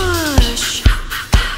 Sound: ha ha ha ha

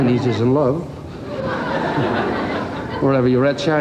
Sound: crowd laughs

